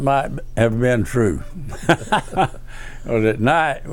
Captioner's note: laughs